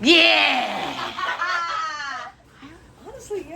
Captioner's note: laughing